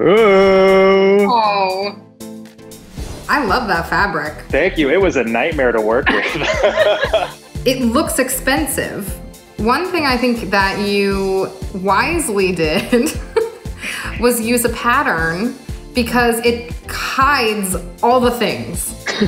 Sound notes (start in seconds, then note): 0.0 upbeat music; 6.0 laughing; 12.7 chuckling